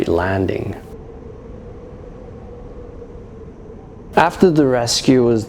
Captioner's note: wind howling